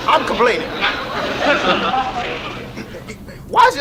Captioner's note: audience laughs